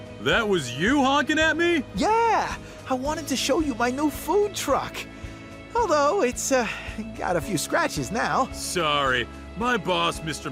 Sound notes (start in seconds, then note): 1.0 gasps; 6.6 sighs